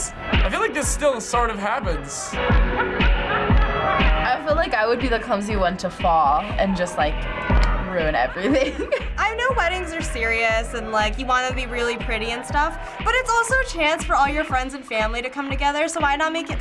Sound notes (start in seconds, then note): 8.2 giggles